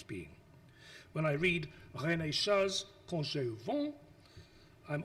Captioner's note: speaks foreign language